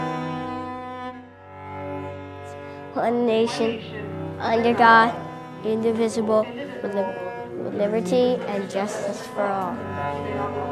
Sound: Reciting the Pledge of Allegiance

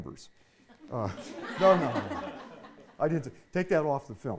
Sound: audience laughing

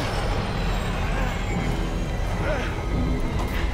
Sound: groan

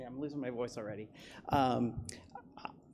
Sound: coughs

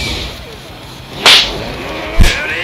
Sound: smack

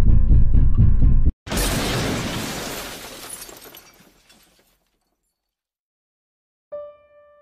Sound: loud Explosion

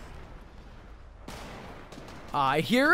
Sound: guns firing

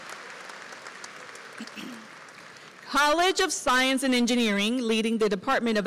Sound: applause

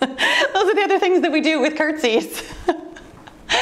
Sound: laughs

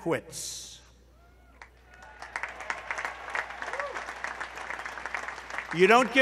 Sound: applause

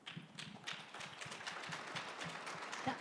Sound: applause

